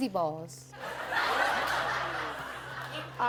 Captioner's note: laughter